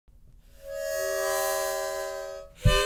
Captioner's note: HOoOoNK; honk